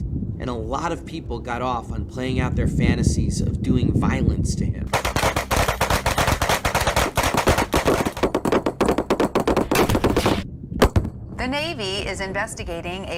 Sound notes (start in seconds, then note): 4.9 gunshots